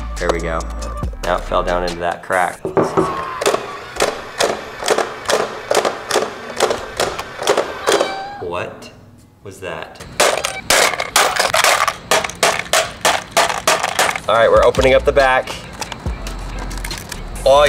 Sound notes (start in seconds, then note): 4.8 plastic box repeatedly slamming shut; 7.9 cat meows; 10.2 plastic cracking and breaking